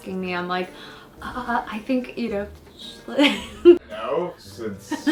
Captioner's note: giggles